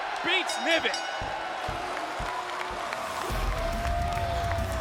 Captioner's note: applause